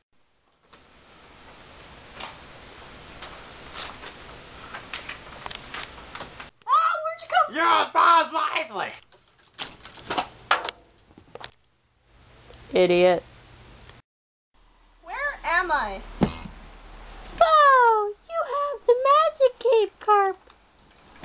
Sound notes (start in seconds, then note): 16.2 boing